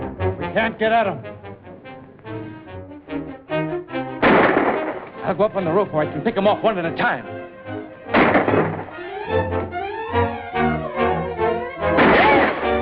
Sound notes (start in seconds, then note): 4.2 gunshot; 8.1 gunshots